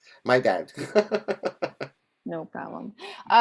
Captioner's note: laughs